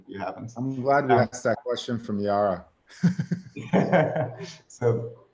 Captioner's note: laughs